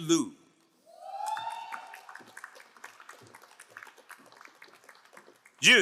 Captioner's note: crowd cheering and applauding